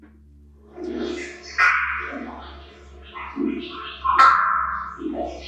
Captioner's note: disembodied voice warbles